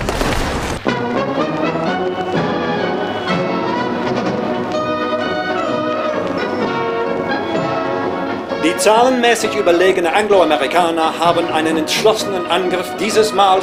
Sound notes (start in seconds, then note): 1.3 triumphant orchestral music; 9.2 speaking foreign language